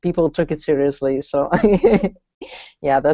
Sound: laughs

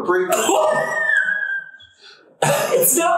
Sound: wheezing

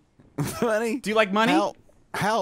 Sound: laughs

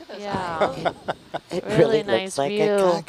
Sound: laughing

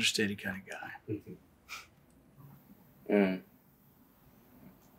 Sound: chuckles

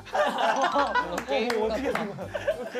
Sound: cracks up from that strange walk

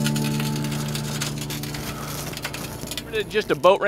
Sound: metal grating

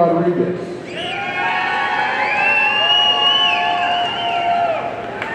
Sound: audience cheering

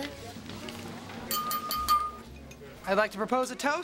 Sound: glasses clinking

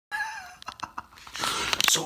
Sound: laughing

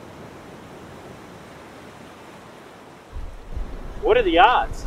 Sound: waves crashing

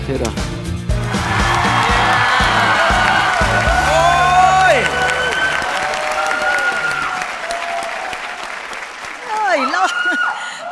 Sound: cheer and applause

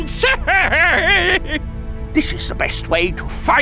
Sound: maniacal laughing

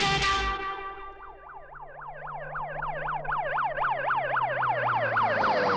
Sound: sirens Wailing

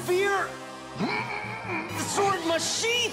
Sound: grunting

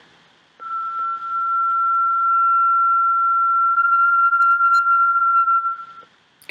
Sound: tinamou sound

